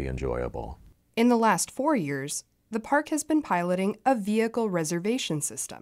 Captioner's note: voice-over